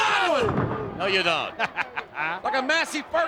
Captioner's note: chuckles